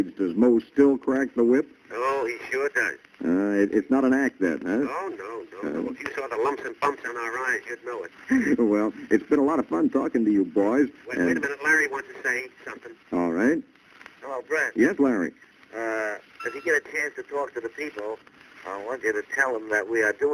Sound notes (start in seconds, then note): 2.2 on phone; 5.2 on phone; 8.6 on phone; 11.3 on phone; 13.2 on phone